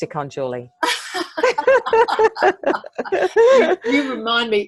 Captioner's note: laughing